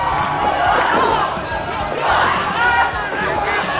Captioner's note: Maddy hits the mat and lets out a painful grunt